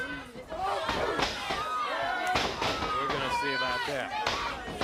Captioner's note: crowd chatter